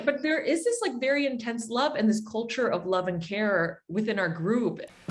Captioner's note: none